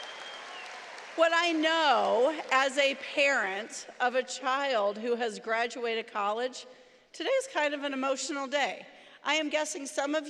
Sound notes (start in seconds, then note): 3.4 cheering & applause